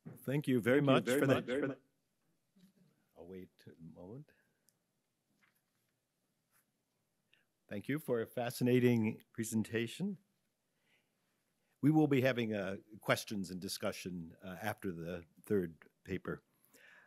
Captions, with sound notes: - Thank you very much. (video speaker echoing) I'll wait a moment. Thank you for a fascinating presentation. We will be having a questions and discussion after the third paper.